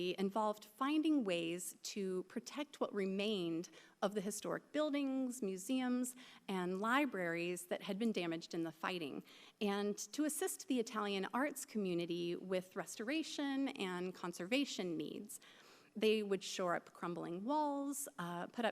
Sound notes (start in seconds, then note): none